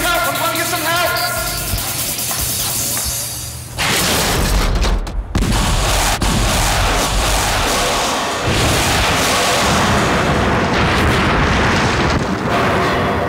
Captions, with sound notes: - I'm gonna get some help, I'm gonna get some help! (upbeat intense music) (explosion) (explosion) (explosion)